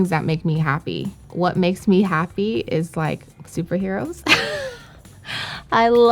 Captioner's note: laughs